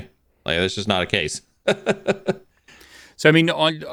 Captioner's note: laughs